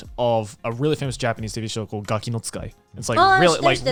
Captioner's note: speaking Japanese